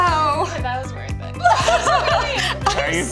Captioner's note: laughs